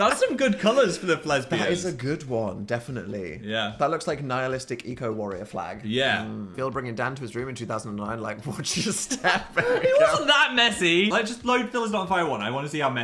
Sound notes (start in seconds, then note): 8.7 Dan laughs; 8.7 Phil laughs